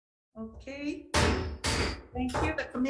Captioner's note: gavel banging